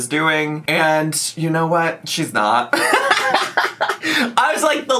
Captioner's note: laughs